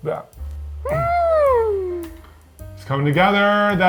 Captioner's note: humming